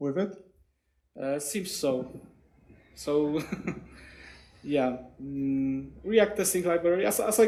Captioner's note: chuckles